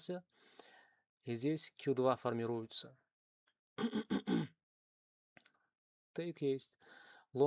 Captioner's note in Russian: кашель; откашливается